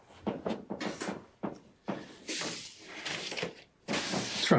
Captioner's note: footsteps tapping